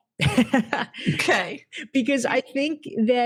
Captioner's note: laughs